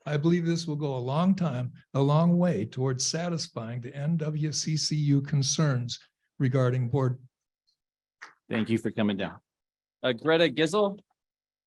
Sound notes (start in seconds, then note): 7.6 muted